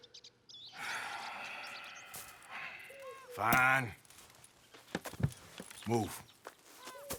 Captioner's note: sighs